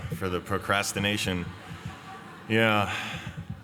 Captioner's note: laughter